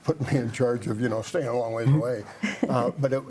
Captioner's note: laughs